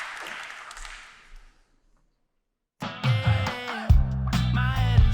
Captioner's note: applause